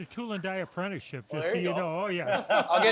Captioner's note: hosts laughing